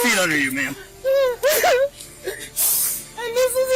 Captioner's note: whimpers